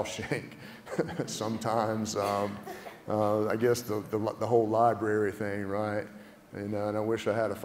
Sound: laugh

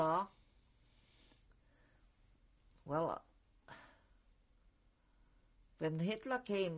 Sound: pauses for 3 seconds

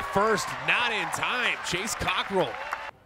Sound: crowd applauding

